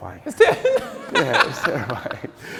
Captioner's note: laughing